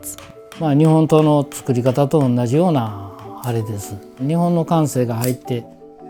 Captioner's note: speaking foreign language